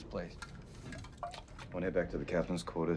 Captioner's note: liquid sloshing